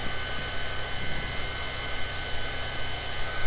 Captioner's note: machine whirring in the background